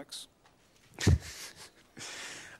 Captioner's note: laugh